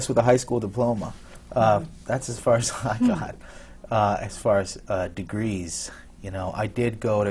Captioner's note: laughs